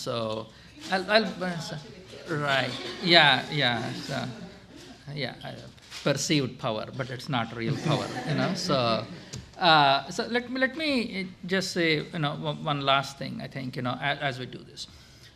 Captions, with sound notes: (woman speaking faintly) Right, yeah, yeah, so. Perceived power but it's not real power, you know? (laughter) So let me just say one last thing I think as we do this.